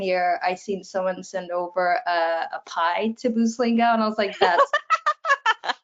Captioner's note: laugh